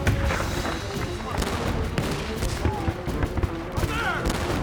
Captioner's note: gunfire